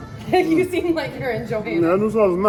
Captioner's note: laughs